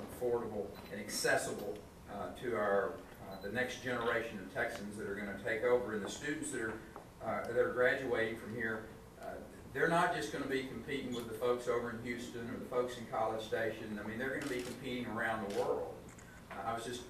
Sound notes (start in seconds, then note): none